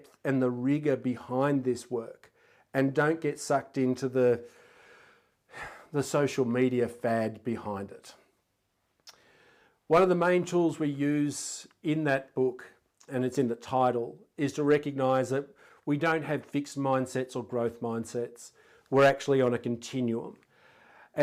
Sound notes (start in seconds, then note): 5.5 sighing heavily